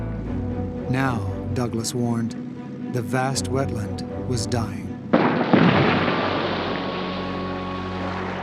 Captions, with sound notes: Now, Douglas warned, the vast wetland was dying. [Explosions]